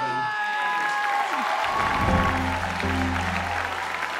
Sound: applause

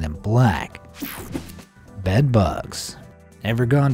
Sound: electricity buzzing

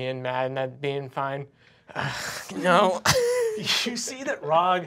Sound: sighs

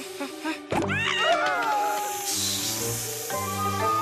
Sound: panicked cries

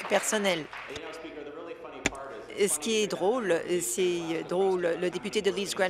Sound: applause

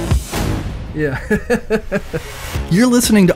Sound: laughing

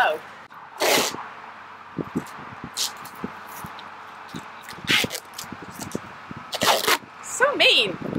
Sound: sounds of duct tape tearing

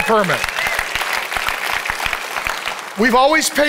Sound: congregation applauding

